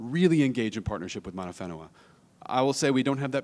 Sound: speaks in a foreign language

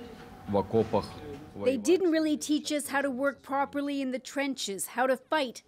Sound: speaking alternate language

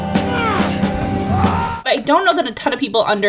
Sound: screams

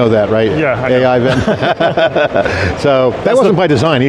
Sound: group laughing

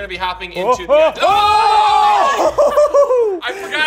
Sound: screaming; laughter

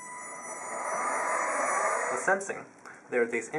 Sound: whirring noise from propellors

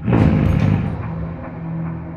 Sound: growl

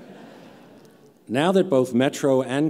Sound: laughter

